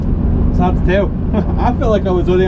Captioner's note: chuckle